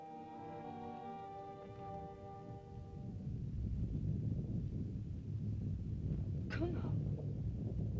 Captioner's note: soft music; rumbling sound; Loana speaks in caveman language